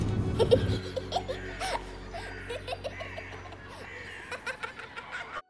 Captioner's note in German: Kinder-Lachen